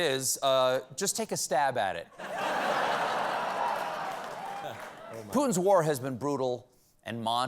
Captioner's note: laughter